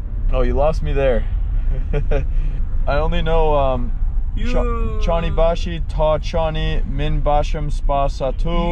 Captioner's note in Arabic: كلام بلغة أجنبية